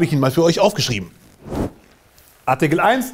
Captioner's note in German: Woosh